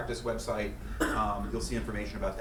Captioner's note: coughing